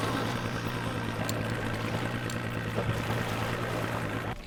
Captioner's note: engine revving